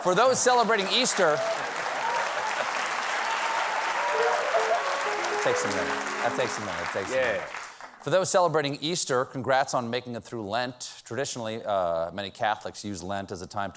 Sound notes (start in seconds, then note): 0.0 laughter; 0.0 applause